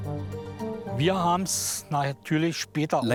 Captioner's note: speaking German